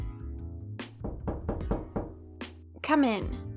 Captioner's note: knocking on the door